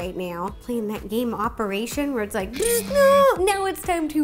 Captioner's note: bzzt!